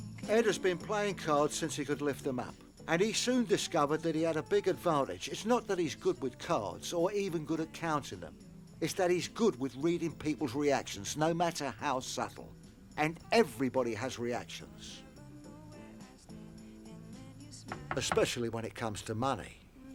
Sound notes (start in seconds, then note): 17.7 knocking on door